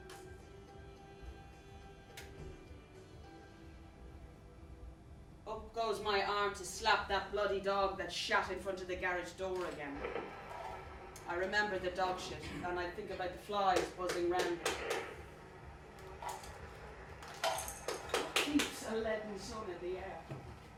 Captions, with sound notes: up goes my arm to slap that bloody dog that's shat in front of the garage door again. I remember the dogshit and I think about the flies buzzing round it. [ RADIO TUNING ] What keeps a leaden sun in the air?